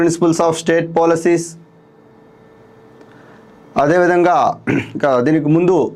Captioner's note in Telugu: గొంతు సవరించుకోవడం